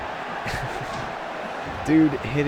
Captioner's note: laughs